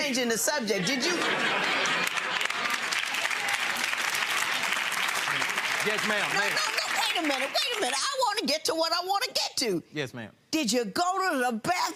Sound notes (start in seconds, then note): 2.3 audience laughing; 3.1 audience applauding